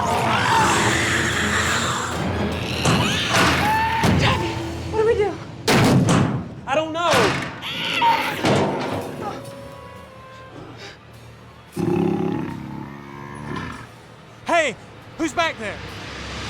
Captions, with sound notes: TYBEE, WHAT DO WE DO?! [ POUNDING ] I DON'T KNOW! [ ANIMAL GROWLING ] HEY, WHO'S BACK THERE?